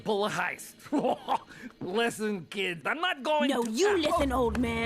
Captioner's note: laughs